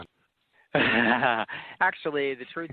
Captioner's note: chuckles